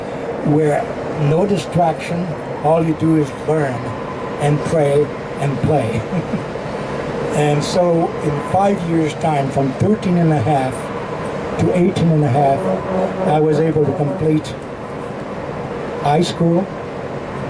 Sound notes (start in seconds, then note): 6.0 laughing